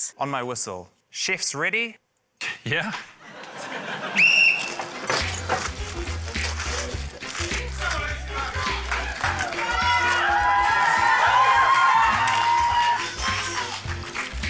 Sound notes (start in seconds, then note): 3.2 laughter; 4.1 blows whistle; 6.4 quirky music; 7.9 audience members shout; 11.4 cheering